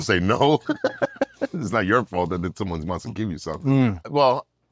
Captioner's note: laugh